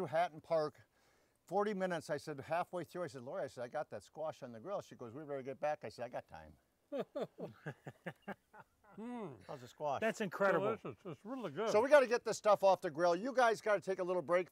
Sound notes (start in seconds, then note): 6.9 all laughing